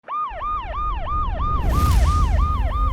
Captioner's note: siren